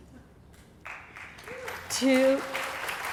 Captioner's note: applause